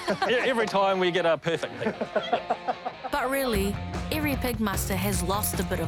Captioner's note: laughter